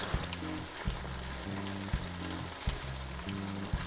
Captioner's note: sizzling